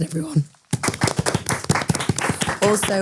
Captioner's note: everyone applauding